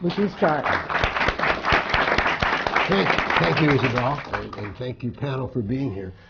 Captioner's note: applause